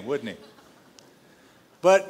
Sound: laughter

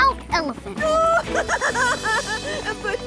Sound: crying

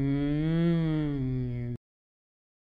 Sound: confused grunt

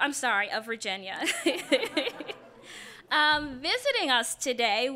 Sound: laughing

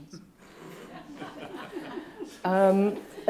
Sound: laughter

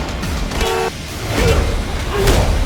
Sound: horn honking

